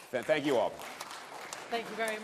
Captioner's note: applause